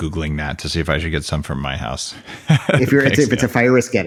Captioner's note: laughs